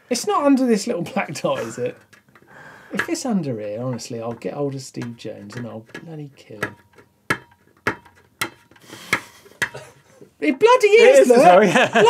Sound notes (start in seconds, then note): 6.8 fingernail scraping; 6.8 metal clanging; 9.1 laughs